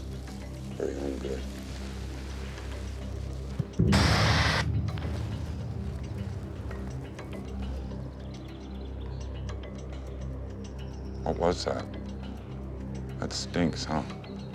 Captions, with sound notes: For you're own good. (pepper spray hissing) What was that? That stinks, huh?